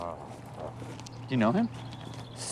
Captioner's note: grumbles